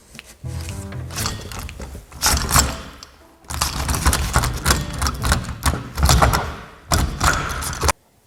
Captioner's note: the doorknob is rattling by itself